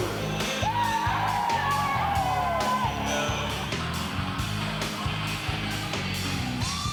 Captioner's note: kids cheer; upbeat music